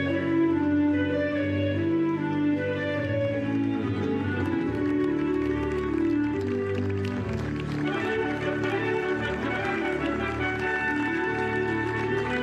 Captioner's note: speaking global language